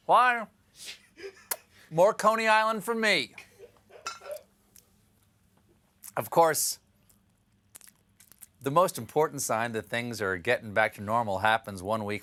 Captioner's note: laughter